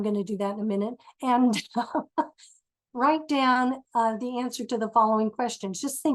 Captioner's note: laughs